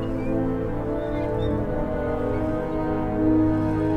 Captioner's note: hatch squeaking